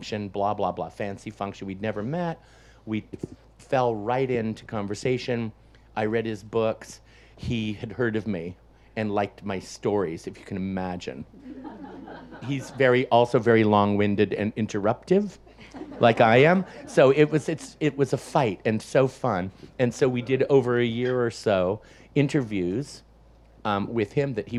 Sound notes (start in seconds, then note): 11.3 audience laughs